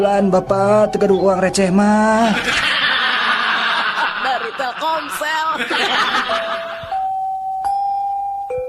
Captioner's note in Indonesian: tertawa